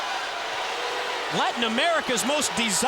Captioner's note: crowd cheering